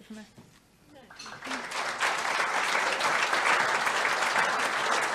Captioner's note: audience applauding